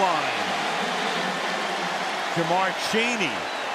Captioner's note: cheering